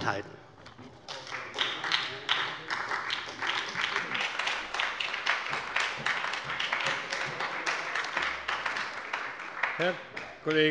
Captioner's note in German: Beifall bei der SPD